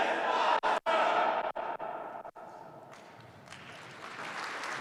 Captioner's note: participants chanting; participants clapping